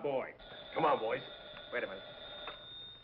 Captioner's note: phone rings